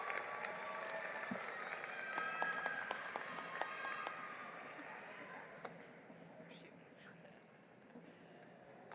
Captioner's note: applause